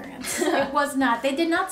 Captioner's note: laughing